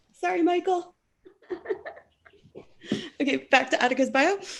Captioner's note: laughing